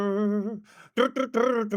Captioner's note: humming